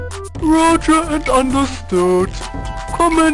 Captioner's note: on phone